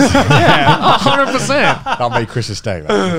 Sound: everyone laughs

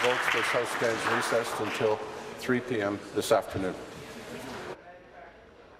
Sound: applause

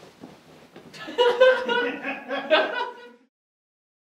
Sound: group laughing

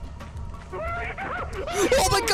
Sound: screaming

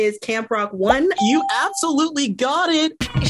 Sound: bell rings

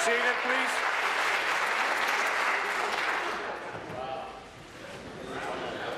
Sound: applause

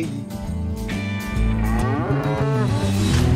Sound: cows mooing

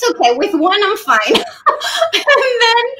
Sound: giggles

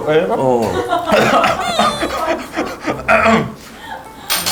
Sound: choking as he was surprised

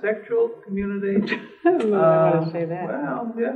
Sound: laughs

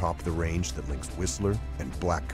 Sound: voiceover

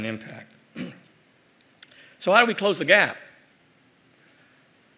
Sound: cough

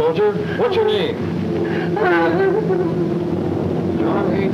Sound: sobbing

